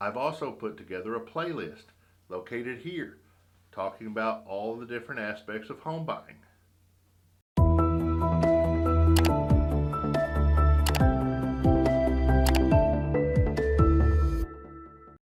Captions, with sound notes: I've also put together a playlist located here talking about all of the different aspects of home buying. (gentle music) (mouse clicking)